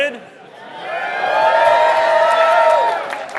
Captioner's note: applause